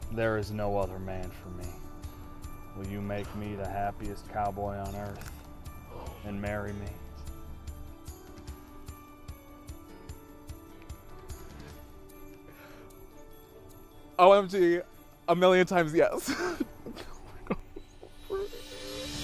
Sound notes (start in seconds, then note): 7.4 upbeat instrumental music; 16.1 giggles